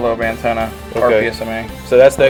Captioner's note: voiceover